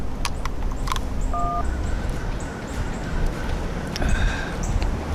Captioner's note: phone beeps; sighs